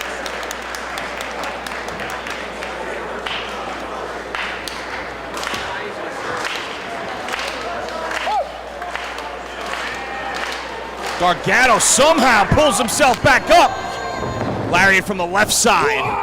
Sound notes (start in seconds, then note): 0.0 applause